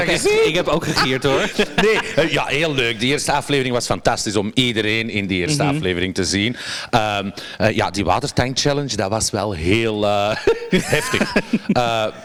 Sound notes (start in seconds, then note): 0.0 cackles; 9.0 giggles